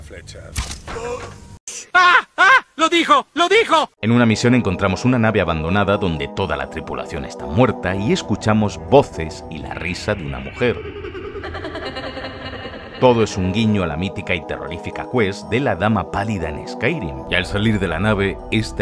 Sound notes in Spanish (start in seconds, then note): 10.1 risa siniestra